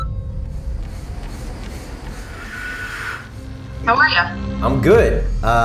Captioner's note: treadmill whirring